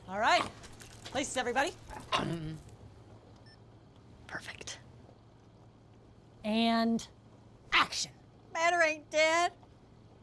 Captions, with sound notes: All right. Places everybody. (CAMERA BEEPS) Perfect. And action. Matter ain't dead.